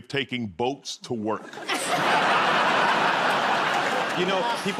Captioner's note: laughter